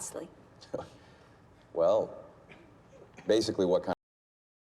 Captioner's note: chuckles